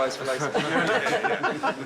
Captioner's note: all laughing